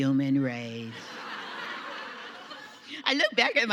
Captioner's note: audience laughing